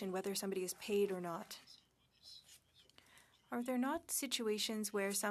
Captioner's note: speaking French